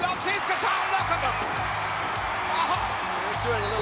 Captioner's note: audience cheering